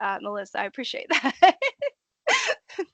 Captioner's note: laughing